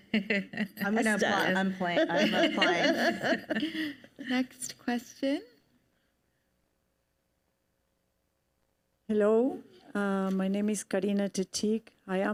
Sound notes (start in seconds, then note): 1.9 panelists laugh